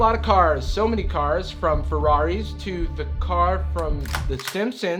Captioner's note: gun cocks